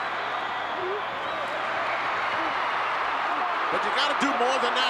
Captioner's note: crowd cheering